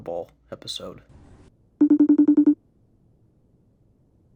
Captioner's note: FaceTime ringing